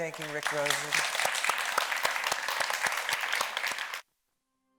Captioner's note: audience applauding